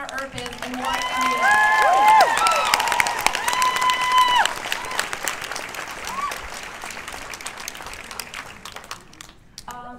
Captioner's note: cheers and applause